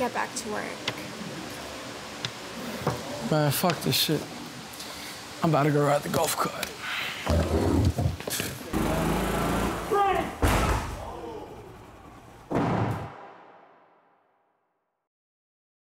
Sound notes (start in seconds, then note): 8.7 golf cart engine humming; 10.4 golf cart crashing; 12.5 wall thudding